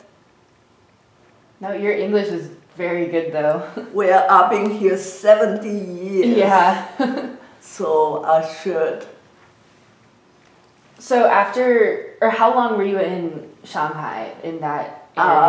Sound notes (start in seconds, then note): 6.7 laughs